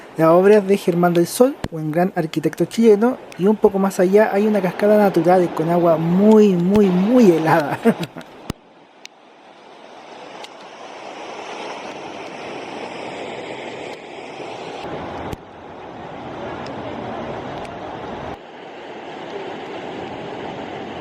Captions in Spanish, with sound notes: la obra es de ‘Germán del Sol’ un gran arquitecto chileno un poco más allá hay una cascada natural con agua muy muy helada (sonido ambiente de cascadas y termas)